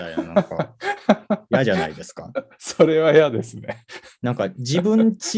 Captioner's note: laugh